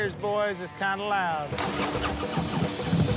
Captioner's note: engine sputters